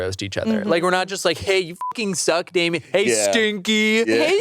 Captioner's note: beep